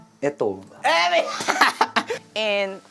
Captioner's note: laughs